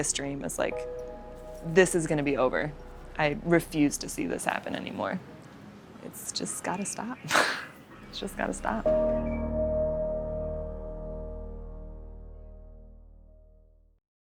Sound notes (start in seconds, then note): 8.1 laughs